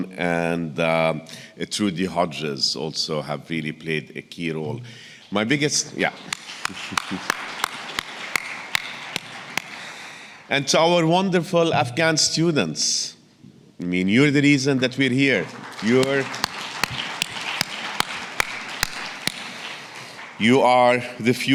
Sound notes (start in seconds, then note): 5.4 audience clapping; 17.6 audience clapping